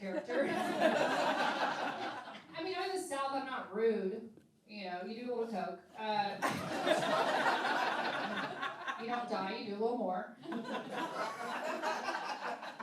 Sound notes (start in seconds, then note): 0.1 laughing; 6.4 laughing; 10.5 laughing